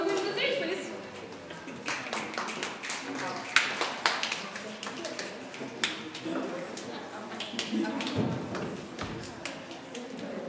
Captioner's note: audience applause